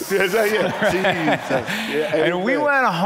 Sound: congregants laugh

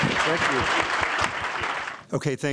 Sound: applause

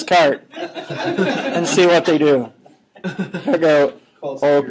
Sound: students laughing

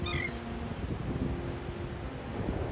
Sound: bird chirping; pleasant music

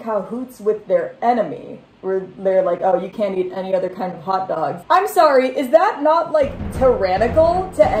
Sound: mocking voice

